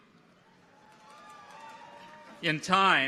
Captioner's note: people cheer